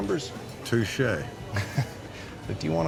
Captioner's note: laughter